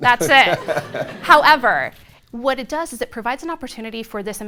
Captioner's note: laughter